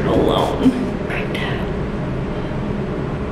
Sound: whispers

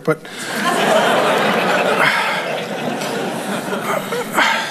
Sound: congregation laughing

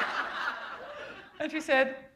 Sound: laughter

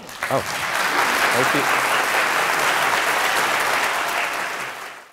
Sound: audience Applause

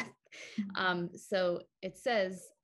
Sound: chuckles

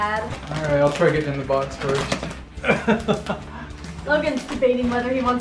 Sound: laughs

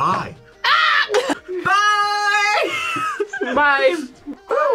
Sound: laughs

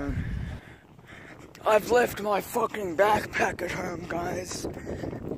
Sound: wind noise

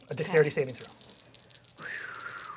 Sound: exhales

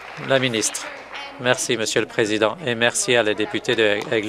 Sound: applause

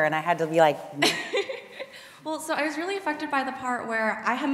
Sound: laughs

